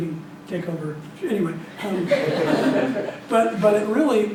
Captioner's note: laughing